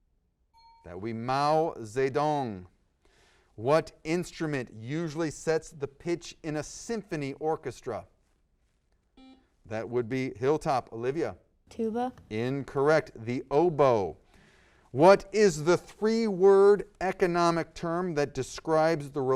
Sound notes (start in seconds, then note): 0.5 ding; 9.2 buzzer